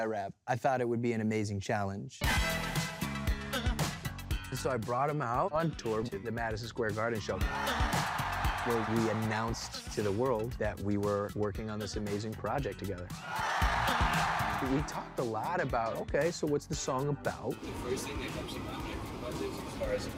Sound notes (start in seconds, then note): 7.4 audience cheering; 13.1 audience cheering